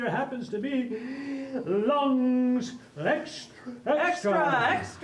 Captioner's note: gasping for breath